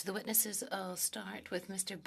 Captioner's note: speaking French